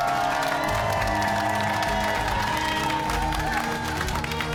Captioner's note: cheers and applause